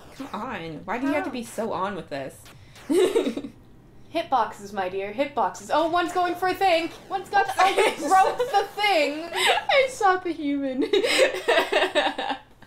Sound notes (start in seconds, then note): 2.8 laughter; 7.6 laughter; 10.8 laughter